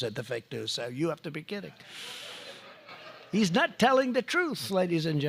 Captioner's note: laughter